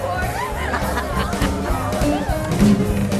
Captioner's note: laughing